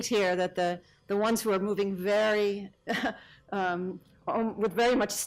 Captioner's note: laughs